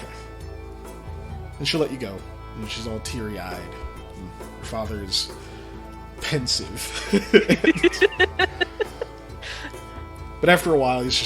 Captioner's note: laughter